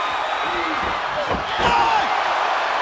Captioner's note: crowd cheering